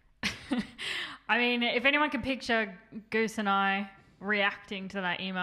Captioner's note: laughs